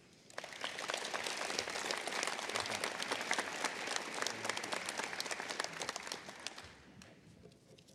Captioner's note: applause